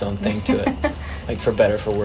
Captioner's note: laughter